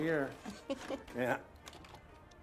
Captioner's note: Rachel chuckles